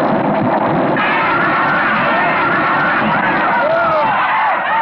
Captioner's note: yelling